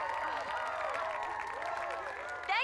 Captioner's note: cheering a andpplause